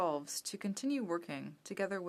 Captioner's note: speaking French